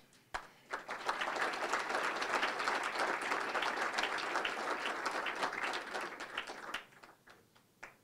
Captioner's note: applause